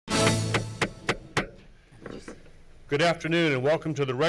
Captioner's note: fanfare sounds; gavel taps